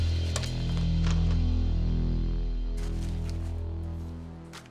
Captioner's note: money shuffling